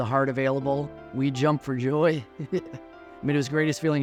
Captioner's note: laughs